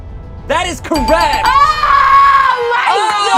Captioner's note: bell dings